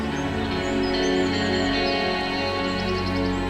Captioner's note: birds; ominous music